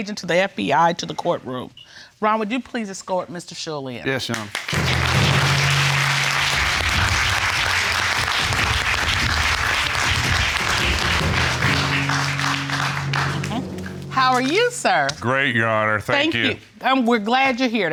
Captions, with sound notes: and former special agent to the FBI to the courtroom. Ron, would you please escort Mr. Shull in. Yes, Your Honor. (AUDIENCE APPLAUDING) How are you, sir? Great, Your Honor. Thank you. Thank you.